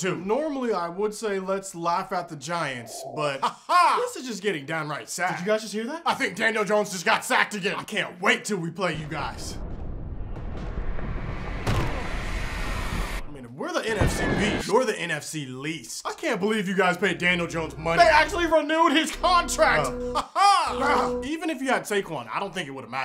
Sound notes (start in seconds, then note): 3.0 laughing; 9.0 explosions, football game noises; 13.9 explosions, yelling; 19.3 laughing